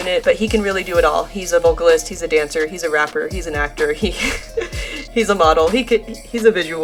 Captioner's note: laughs